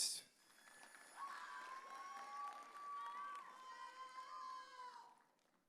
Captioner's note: audience cheering